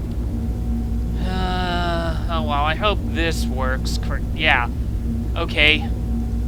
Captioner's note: sighs